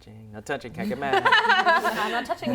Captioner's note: laughter